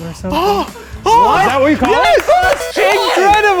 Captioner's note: claps